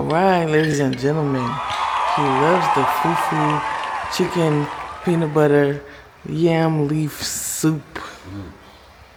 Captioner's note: cheering